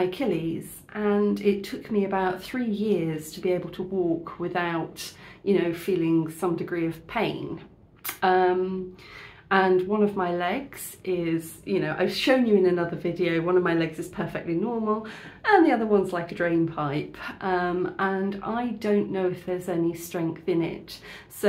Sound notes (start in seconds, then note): none